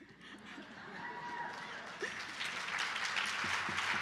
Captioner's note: applause